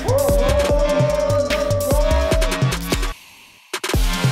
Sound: all cheering; bright upbeat music

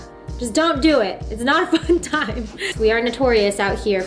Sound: laughs

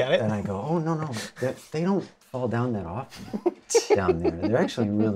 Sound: laughs

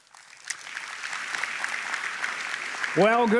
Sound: applause

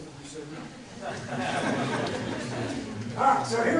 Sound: laughter

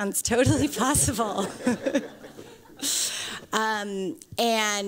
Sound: laughter

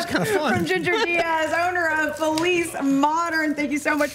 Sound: laughter

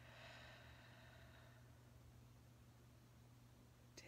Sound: inhaling; exhaling

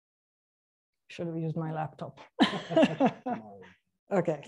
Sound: laughs

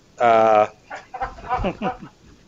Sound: laughter

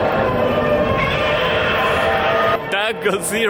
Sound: godzilla roars

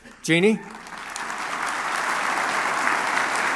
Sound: applause

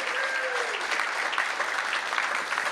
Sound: applause

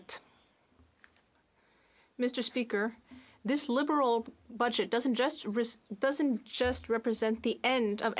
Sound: speaking French

